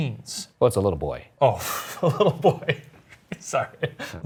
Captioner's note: laughs